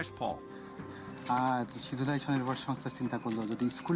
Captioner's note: speaking Bengali